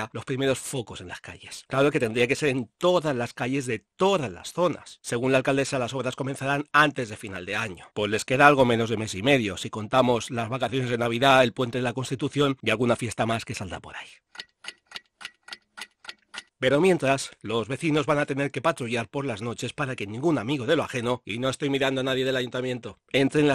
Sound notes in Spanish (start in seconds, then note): 14.3 sonido tic-tac reloj